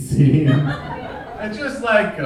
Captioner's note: audience laughing